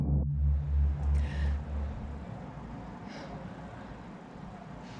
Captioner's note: Leona gasps